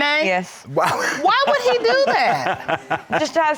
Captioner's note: laughing